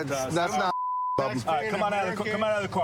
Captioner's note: chatter